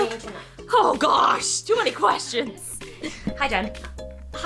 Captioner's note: both laugh